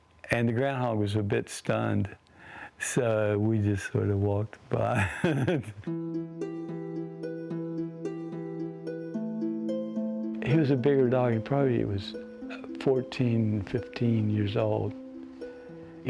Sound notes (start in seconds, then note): 4.8 laughs; 6.2 lute music